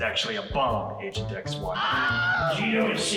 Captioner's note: man screams